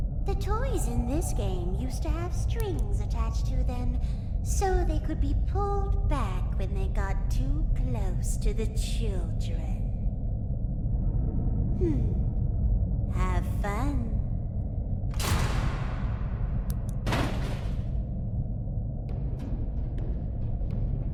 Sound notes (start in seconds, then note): 15.1 thunder; 19.0 ominous music